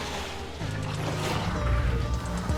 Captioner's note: creatures snarling